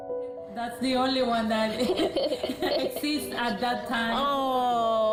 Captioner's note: laughing